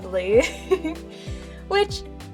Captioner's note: giggles